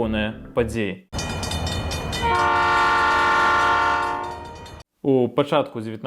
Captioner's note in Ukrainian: Гудок поїзда на переїзді